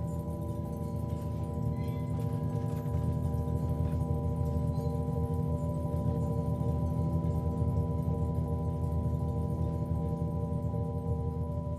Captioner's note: faint rattling and clanging noises